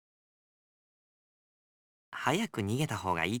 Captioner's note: silence